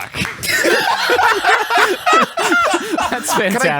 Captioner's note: laughs